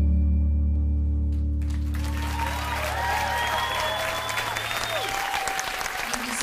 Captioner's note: cheers, whistles, & applause